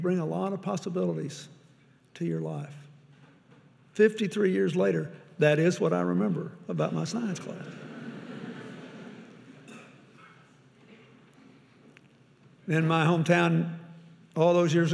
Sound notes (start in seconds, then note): 7.6 audience laughing